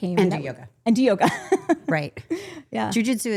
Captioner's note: laughs